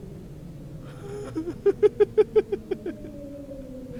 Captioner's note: nervous laughter